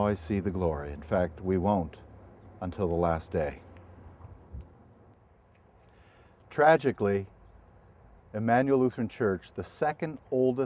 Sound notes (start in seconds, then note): 3.6 pause